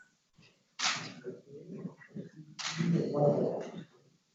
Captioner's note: camera clicking